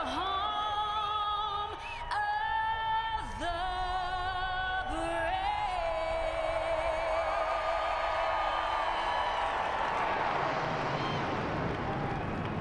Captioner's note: cheers and applause